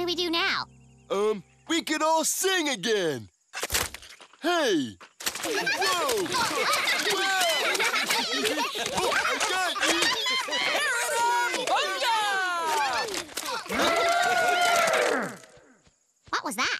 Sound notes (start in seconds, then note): 4.2 mud splats; 8.2 mud splashes, playful laughter; 13.2 playful laughter; 16.0 loud trumpeting in the distance